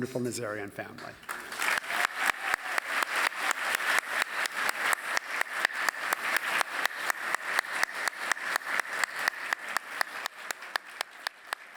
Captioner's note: applause